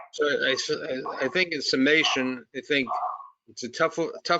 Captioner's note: dog barking